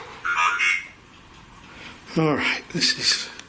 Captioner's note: Voice from Ovilus